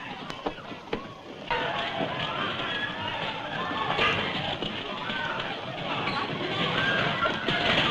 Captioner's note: commotion